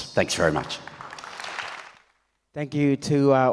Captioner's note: audience applauds